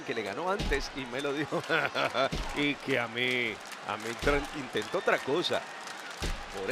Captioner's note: laugh